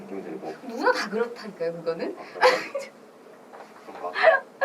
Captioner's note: laughs